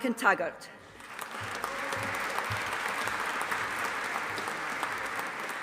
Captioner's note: audience applauding